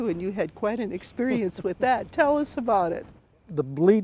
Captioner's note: chuckles